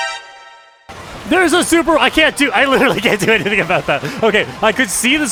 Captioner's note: horn